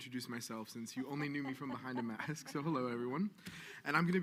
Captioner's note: woman laughing